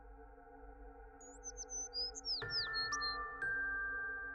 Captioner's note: birds chirping; bright music